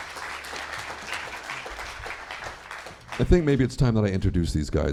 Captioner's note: applause